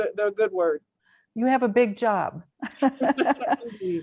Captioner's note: laughs